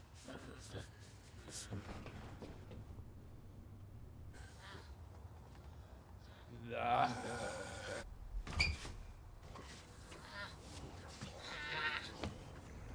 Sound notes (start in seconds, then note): 6.9 growling; 9.8 grunting